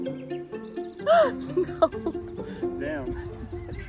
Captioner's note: laughs